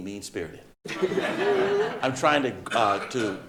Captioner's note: audience laughing